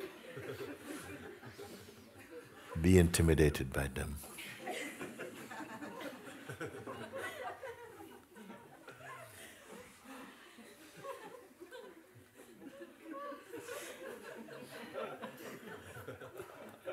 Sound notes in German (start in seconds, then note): 5.9 Lachen